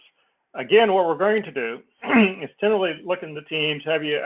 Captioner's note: cough